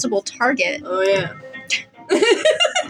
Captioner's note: laugh; snicker